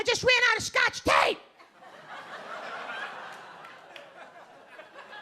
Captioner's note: audience laughing